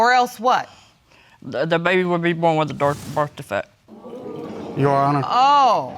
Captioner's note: audience gasping